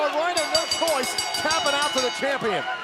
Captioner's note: bell ringing